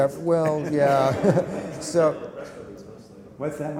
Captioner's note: laughter